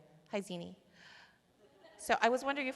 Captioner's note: laughter